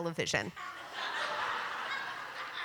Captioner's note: laughter